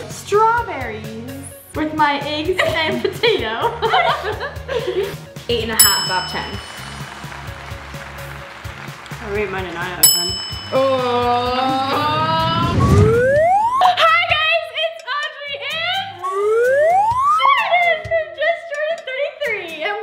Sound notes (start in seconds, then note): 3.6 laughs; 5.7 bell dings; 6.7 applause; 10.0 bell dings; 12.5 slide whistle; 16.2 slide whistle